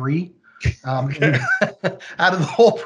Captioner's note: laughing; laughs